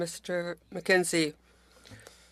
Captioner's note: speaking French